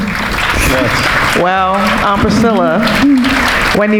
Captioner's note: audience applauding